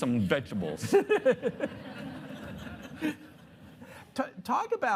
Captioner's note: audience laughing